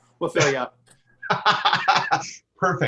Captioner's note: laughter